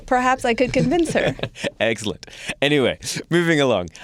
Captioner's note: laughs